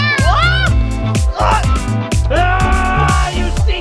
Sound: screams

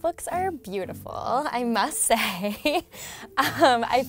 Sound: giggles

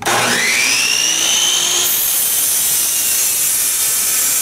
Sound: saw buzzing

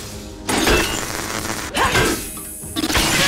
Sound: hissing; screaming

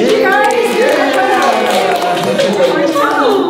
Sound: everyone cheering

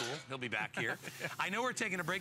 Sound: laughter

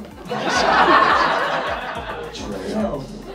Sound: crowd laughs

